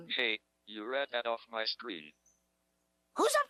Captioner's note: electronic Voice